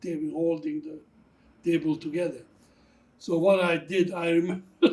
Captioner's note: laughing